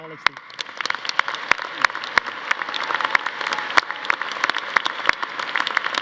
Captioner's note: audience cheering; audience applauding